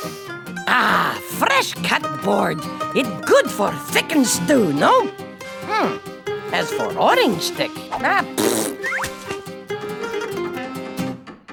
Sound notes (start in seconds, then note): 8.9 chopping sounds